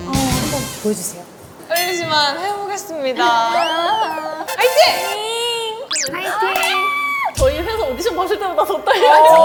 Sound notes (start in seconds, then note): 6.4 screams randomly